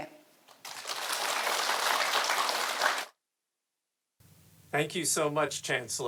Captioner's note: audience applauding